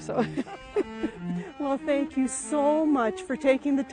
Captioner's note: laughs